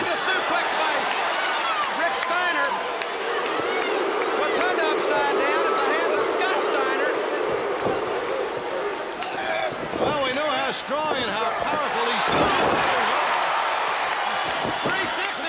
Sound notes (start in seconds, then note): 10.2 crowd cheering